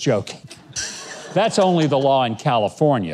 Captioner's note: laughing